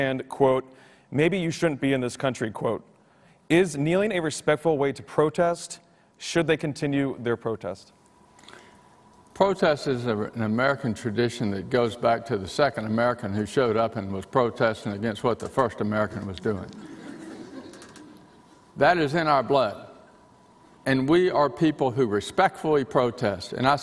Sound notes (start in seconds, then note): 16.8 audience laughing